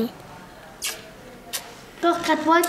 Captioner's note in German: Locklaute